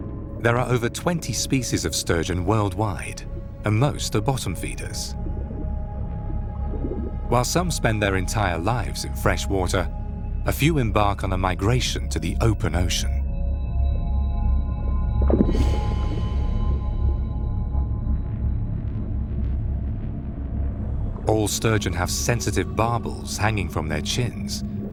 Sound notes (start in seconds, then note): 15.2 water sloshes; 17.2 ominous music